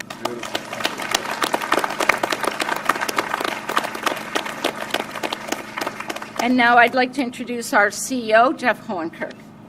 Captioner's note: applause